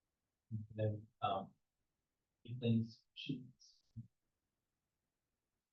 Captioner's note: speaking faintly